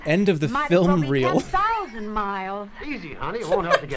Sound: laughs

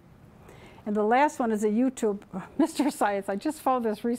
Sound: chuckling

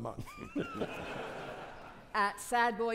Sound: audience laughing

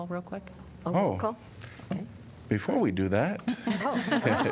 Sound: laughter

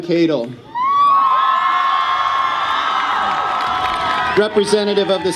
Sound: audience cheers

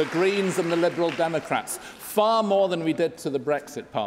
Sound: applause

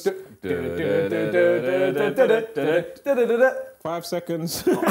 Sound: humming Countdown theme song

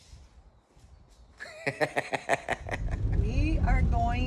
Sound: laughs

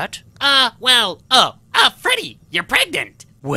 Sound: excitedly

